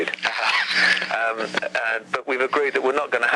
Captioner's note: host chuckles